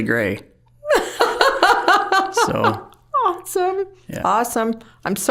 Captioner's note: laughing